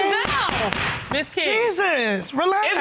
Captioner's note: gavel bangs